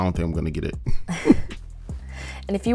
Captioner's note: both chuckle